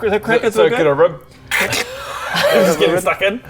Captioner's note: crrck